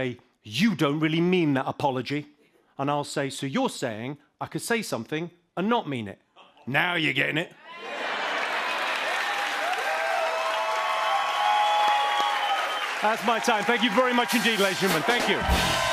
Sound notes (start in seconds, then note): 7.6 cheers and applause